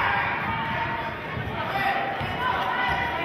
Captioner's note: yelling